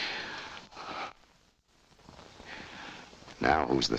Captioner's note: Ann shudders